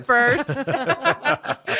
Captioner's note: laughter